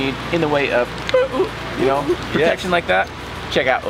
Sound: makes random sounds

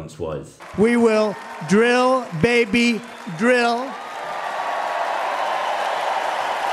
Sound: cheering; loud applause

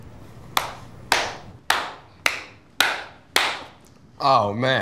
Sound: clapping

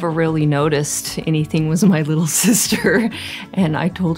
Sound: laughs

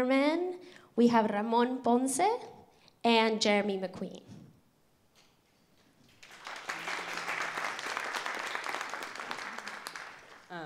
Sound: applause

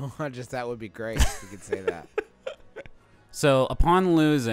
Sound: laughing

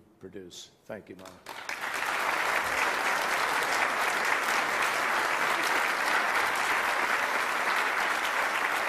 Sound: applause

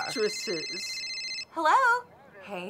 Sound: phone rings

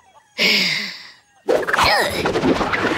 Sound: grunting

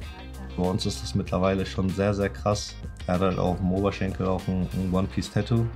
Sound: speaking foreign language

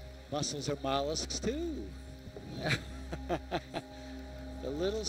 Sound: laughs

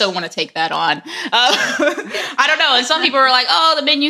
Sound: laughs

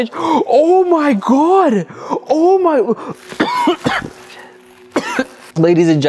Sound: gasps; coughs

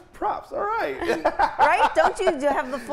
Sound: laughing

